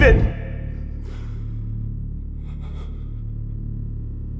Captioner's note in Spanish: Respiración fuerte